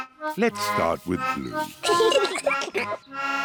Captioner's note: both giggle